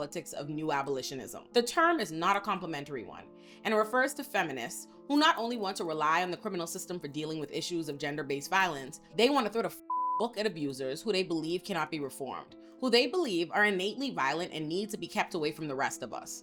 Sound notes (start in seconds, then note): 9.8 beep